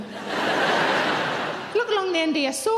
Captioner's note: audience laughing